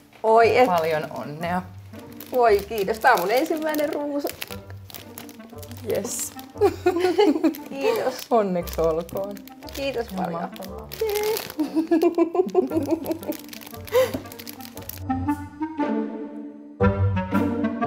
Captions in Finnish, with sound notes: Oi, että! - Paljon onnea! Voi, kiitos! Tämä on ensimmäinen ruusuni. Jes. [Nauraa] - Kiitos. Onneksi olkoon! Ihan mahtavaa. - Kiitos paljon. Jee! [Molemmat nauravat] [Rentoa musiikkia]